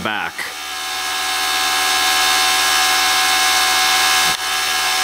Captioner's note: mechanical whirring